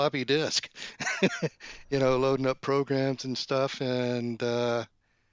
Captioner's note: laughs